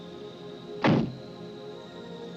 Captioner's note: car door closes